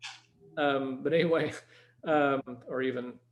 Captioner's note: chuckles